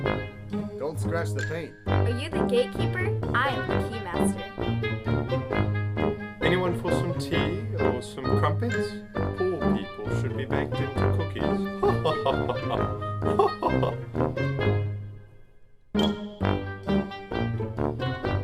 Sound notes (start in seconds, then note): 11.8 laughing; 13.6 upbeat music